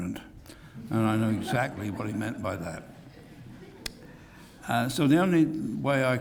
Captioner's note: laugh